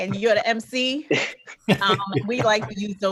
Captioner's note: laughing